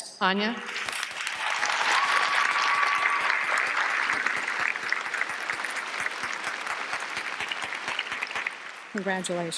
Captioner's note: applause